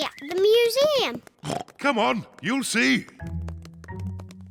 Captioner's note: oinks